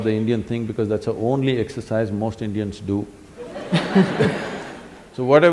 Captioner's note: laughter; 笑聲